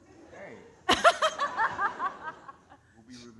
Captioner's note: audience laughing